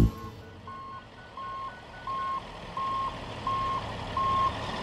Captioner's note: front end loader sounds